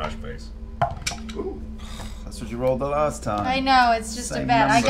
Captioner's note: sighs